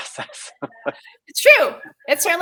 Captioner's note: laughing